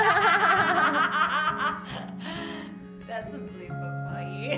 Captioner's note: laughing